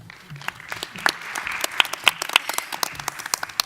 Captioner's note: applause